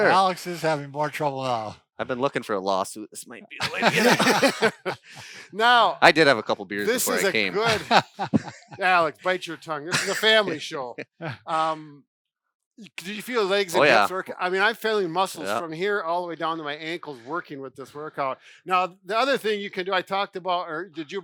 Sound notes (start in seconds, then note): 5.4 laughter